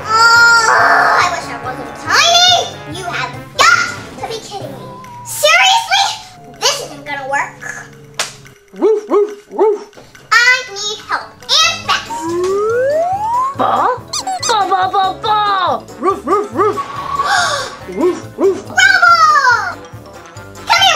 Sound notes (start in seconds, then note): 8.8 dog barking; 12.2 swing flute; 13.6 barking; 13.8 toy squeaking; 14.7 barking; 17.2 sighs